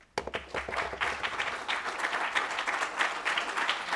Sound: applause

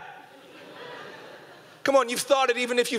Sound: audience laughing

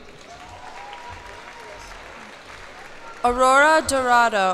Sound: cheers and applause

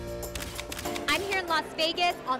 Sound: camera clicks

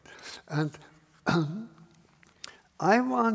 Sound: coughs

